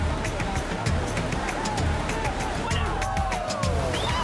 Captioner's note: cheering